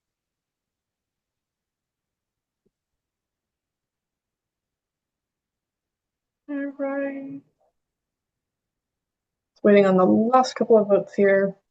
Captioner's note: pause